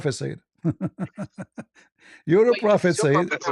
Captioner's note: ketawa